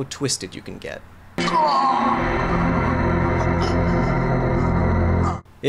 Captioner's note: man groaning